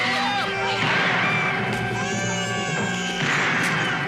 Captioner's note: guns shooting, baby crying, screaming